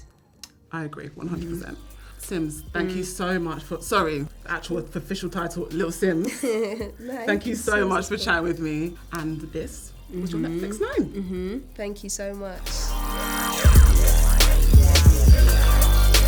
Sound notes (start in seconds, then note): 6.2 little laughs; 12.8 mid-tempo techno music